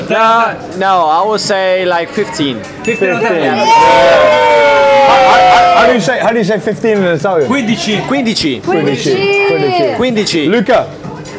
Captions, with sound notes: - Nah, no I will say like 15. (people cheering) - How do you say 15 in Italian? (people speaking Italian) - Luca.